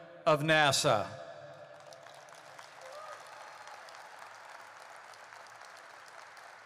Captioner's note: applause